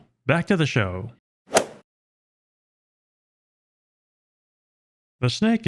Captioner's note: golf swing sound effect